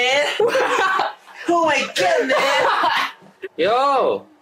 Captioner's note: laughs